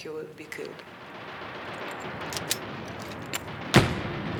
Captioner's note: guns fire